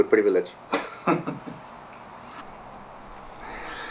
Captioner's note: Sterling laughing